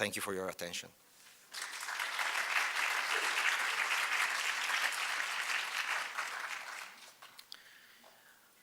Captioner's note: applause